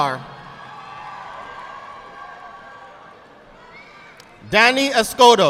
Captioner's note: audience applauding